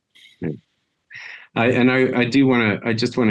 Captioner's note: sighs